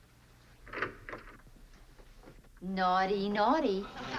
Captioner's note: door opening